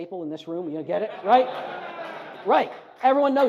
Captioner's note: audience laughs